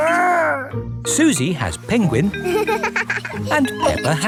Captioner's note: giggles